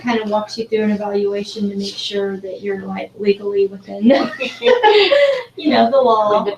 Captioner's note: laugh